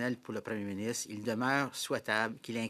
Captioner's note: speaking French